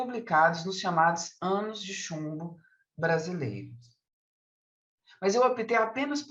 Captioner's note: continues speaking in Portuguese